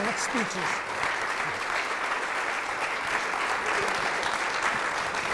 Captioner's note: audience clapping